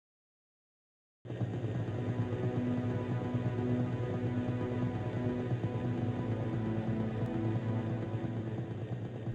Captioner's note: helicopter rotor sounds